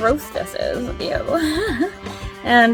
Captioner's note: laughs